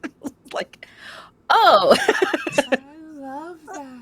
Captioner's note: laughs